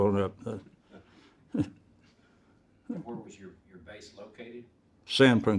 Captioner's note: chuckles